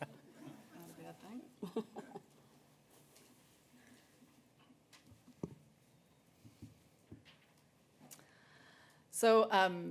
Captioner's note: soft Laughter